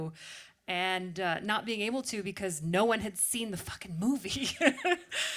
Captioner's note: laughs